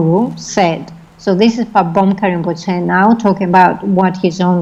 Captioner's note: foreign language